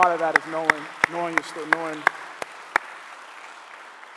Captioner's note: clapping